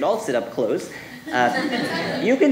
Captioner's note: audience laughing